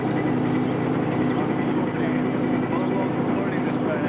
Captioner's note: engine continues rumbling